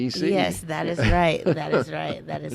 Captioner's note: laughing